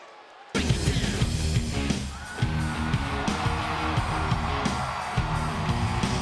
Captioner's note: crowd cheering; upbeat music